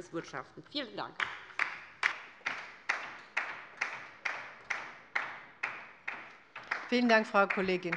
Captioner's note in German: Beifall bei der LINKEN